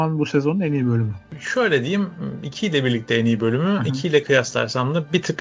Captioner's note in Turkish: boğazını temizler